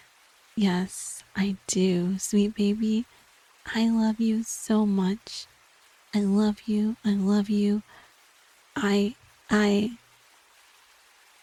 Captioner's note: whisper